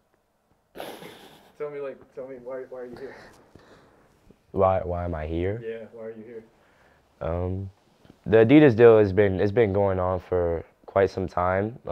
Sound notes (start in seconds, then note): 0.8 laughs